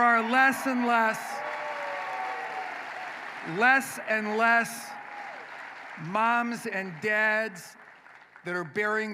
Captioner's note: applause